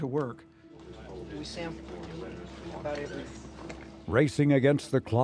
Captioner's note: navigators chattering